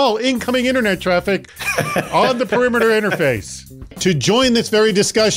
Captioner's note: laughs